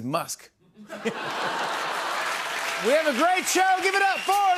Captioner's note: laughter